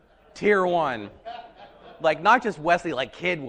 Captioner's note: audience laughing